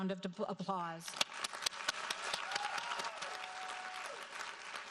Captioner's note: audience applauding